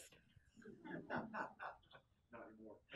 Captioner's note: class chuckles